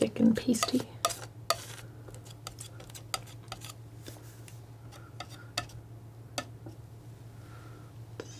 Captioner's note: tapping